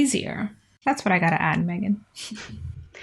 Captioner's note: laughs